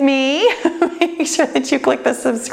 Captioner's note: laughs